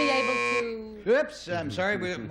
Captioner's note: buzzer